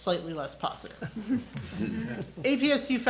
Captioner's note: attendees chuckle